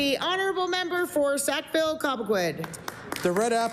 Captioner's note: applause